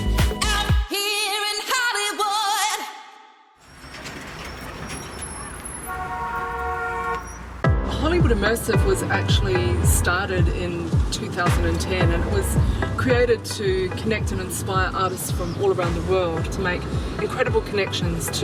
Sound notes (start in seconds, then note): 3.6 brakes squealing; 5.8 horns honking